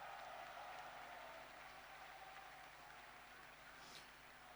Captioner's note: applause